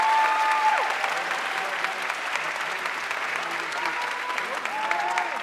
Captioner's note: audience cheering and applauding